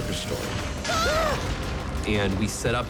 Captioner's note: both gasp